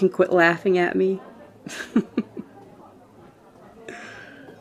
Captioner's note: laugh